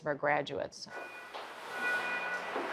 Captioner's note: beeping